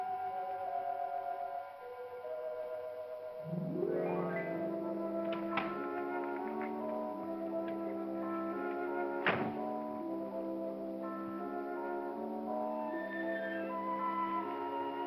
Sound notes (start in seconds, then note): 0.0 eerie music; 7.3 eerie music; 9.2 car door closes; 10.7 eerie music